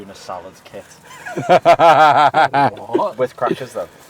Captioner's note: laughter